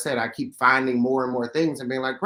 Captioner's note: none